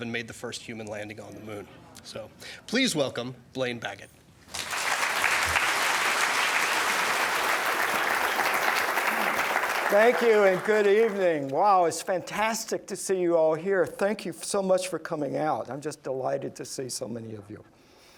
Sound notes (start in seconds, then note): 4.5 applause